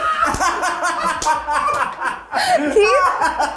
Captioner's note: cast laughing